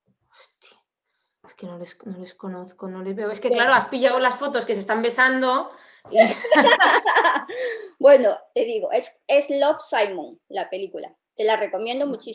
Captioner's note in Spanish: risas